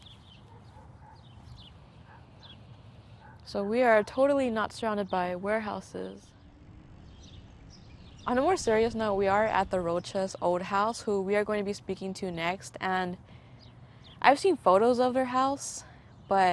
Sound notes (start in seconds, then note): 0.4 dogs barking; 6.8 birds singing